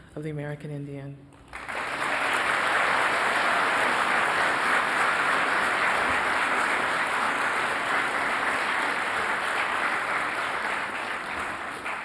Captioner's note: applause